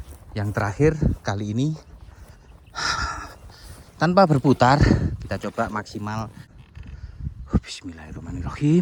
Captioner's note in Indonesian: menghela napas